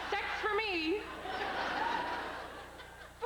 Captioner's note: laughter